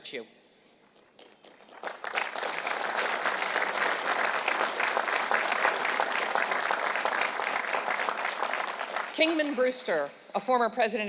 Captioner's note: applause